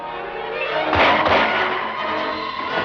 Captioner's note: gunshots